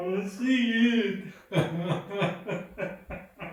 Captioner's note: crying both inside and outside